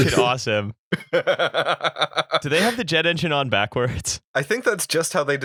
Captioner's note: laughter